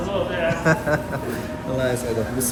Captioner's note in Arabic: يضحك